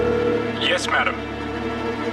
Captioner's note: male Voice